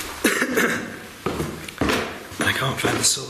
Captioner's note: coughing